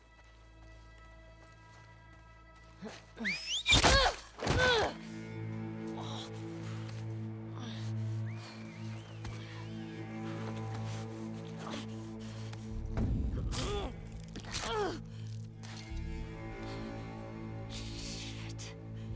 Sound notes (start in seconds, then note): 3.2 whistle